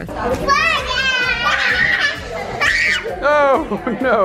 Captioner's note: children laughing